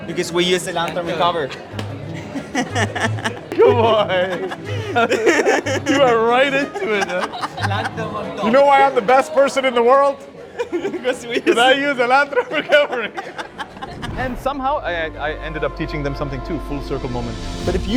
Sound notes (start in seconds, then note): 2.1 laughs; 4.6 people laugh; 13.4 students laugh